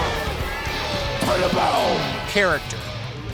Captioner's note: exclaiming